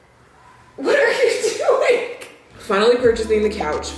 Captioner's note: laughs